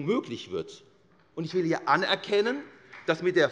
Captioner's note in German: Beifall